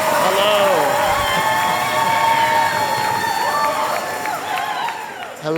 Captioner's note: applause and cheers